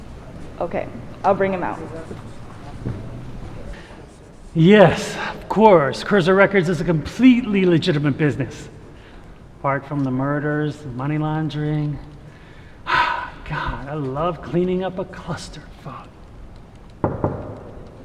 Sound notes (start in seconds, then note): 12.8 Alexandre sighing